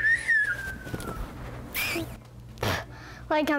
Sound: whistling

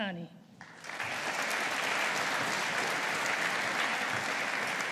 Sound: audience applauding

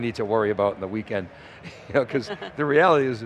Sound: laughs

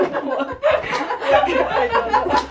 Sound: all laughing; both laughing

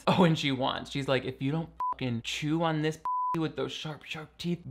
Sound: beep

